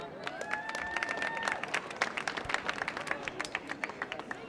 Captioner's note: audience applauding